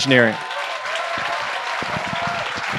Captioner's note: applause